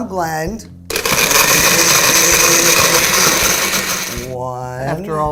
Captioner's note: loud whirring